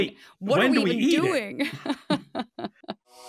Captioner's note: chuckles